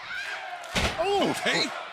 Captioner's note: crowd cheering